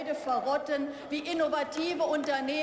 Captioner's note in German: Beifall